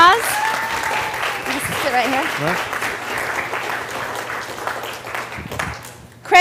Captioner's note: cheer and Applause